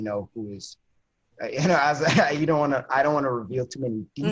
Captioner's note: laughs